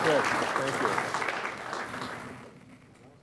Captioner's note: applause